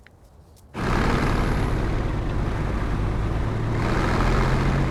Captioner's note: engines rumbling